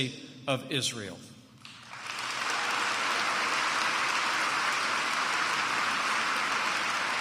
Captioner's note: applause